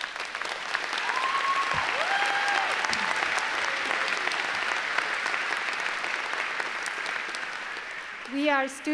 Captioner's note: applause